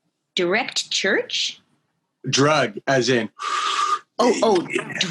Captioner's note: puffs